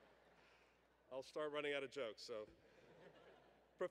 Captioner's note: laughter